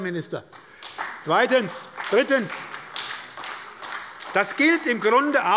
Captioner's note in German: Beifall bei der SPD